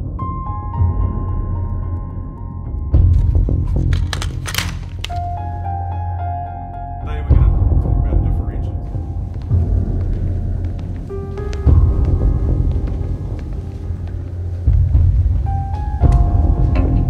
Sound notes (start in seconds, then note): 3.6 sound of snapping together of gun parts; 8.0 instructor talking in classroom